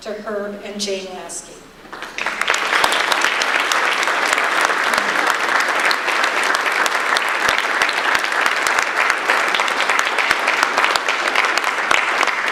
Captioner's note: audience applause